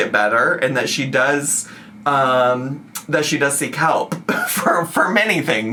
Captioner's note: laughs